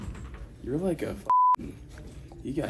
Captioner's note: beep